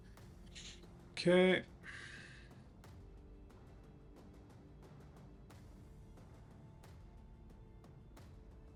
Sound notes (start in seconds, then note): 1.8 sighs; 4.2 soft music